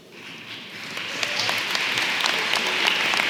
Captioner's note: applause